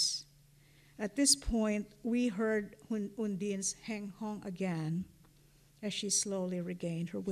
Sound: non-english

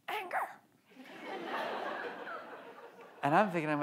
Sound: audience laughs

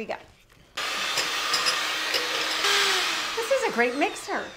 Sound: mixer humming

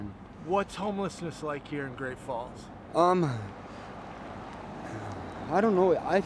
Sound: car passing

